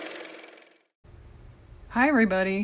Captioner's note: car motor